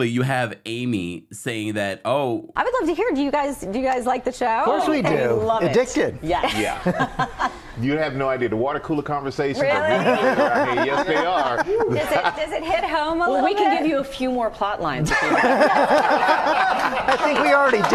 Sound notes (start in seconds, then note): 6.4 host laughing; 9.6 all laughing; 12.6 laughing; 16.8 audience and hosts laughing